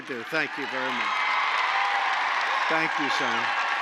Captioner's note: applause